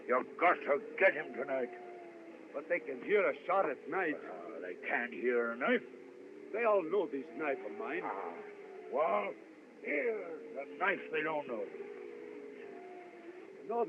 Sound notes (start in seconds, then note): 7.9 groans